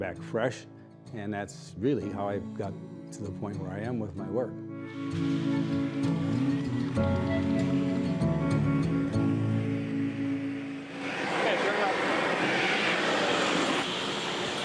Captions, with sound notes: I came back fresh, and that's really how I got to the point where I am with my work. (fire hissing) Okay, turn it off.